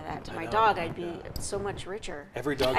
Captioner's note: laughs